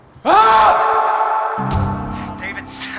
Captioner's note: yells